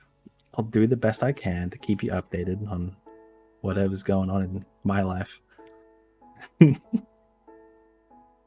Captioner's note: giggle